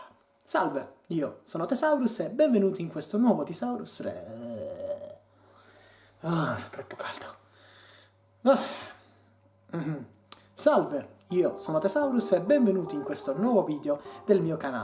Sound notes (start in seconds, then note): 7.6 uff